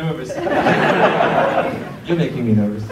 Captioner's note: crowd laughs